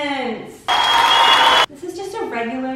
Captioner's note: audience cheering